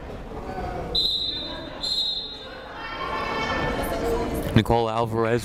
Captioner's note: whistle blows